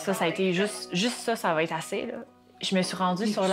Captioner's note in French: léger brouhaha de voix